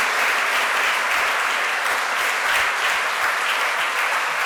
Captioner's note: applause